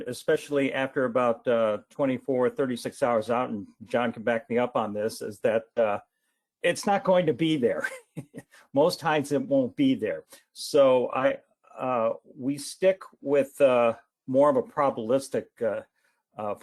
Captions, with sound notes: especially after about 24, 36 hours out, and John can back me up on this, is that it's not going to be there. (laughs) Most times it won't be there. So we stick with more of a probabilistic forecast